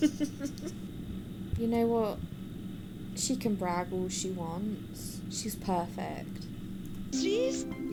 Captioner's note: laughs